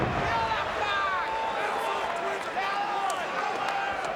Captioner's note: people shouting